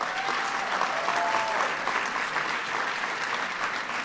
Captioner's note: applause